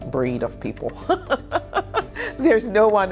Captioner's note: laughing